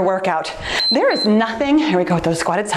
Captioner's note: timer beeps